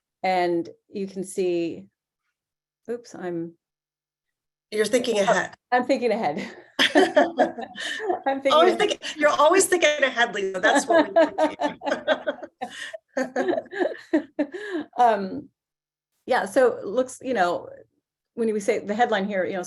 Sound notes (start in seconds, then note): 6.4 laughing; 10.5 laughing